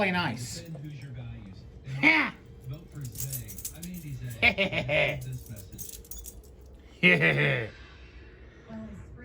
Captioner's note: evil laughter